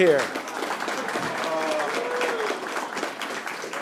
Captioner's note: applause